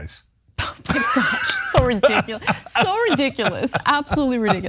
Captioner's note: laugh